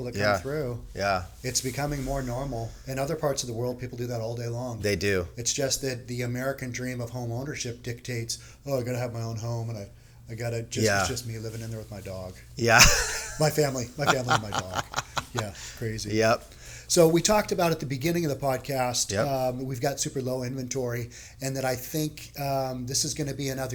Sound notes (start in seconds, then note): 13.9 chuckles; 13.9 laughing